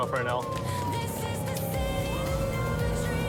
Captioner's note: siren blaring